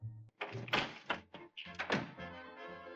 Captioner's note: door clicking shut